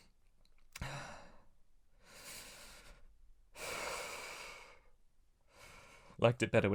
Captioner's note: shivering breaths